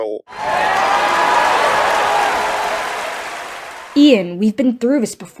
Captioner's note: chanting; audience whoops and cheers